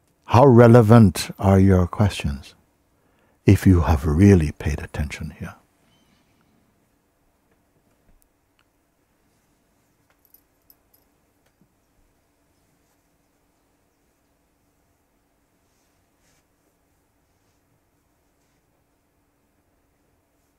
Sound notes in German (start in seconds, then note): 6.6 Stille